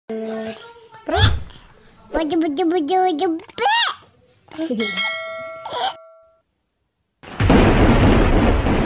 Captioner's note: baby language & laugh